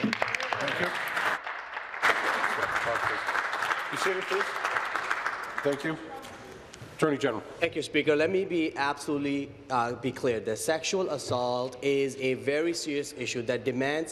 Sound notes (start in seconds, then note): 3.3 applause